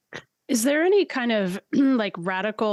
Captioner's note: clears throat